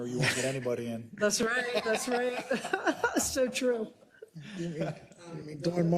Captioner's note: laugh